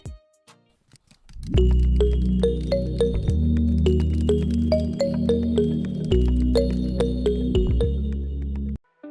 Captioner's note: typing noises